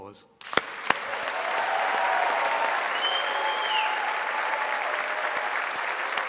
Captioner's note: audience cheering and applauding